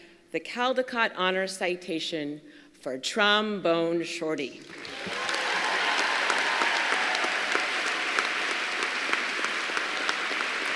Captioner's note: applause